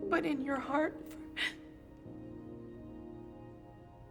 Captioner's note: gasps